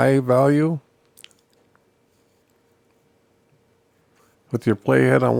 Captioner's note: silence